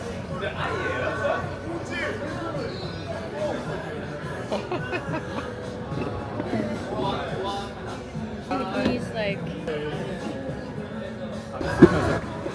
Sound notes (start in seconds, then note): 4.4 laughter